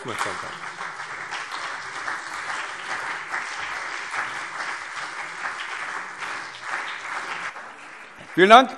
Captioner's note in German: Beifall CDU und BÜNDNIS 90/DIE GRÜNEN